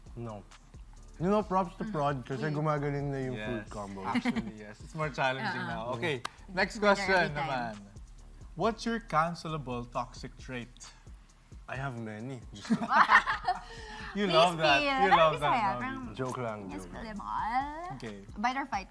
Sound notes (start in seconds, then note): 12.6 all laugh